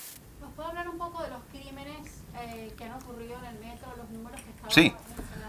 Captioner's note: reporter in Spanish